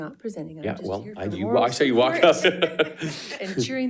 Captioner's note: laughs